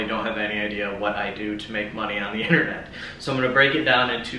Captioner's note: chuckles